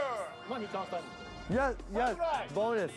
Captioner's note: speaking Japanese